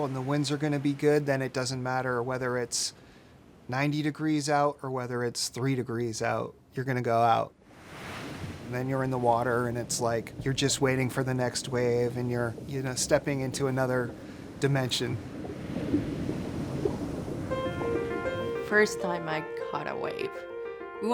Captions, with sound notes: and the winds are gonna be good, then it doesn't matter whether it's 90 degrees out, or whether it's 3 degrees out, you're gonna go out. And then you're in the water and it's like, you're just waiting for the next wave, and you're stepping into another dimension. (bubbles gurgling) (bright piano music) - First time I caught a wave,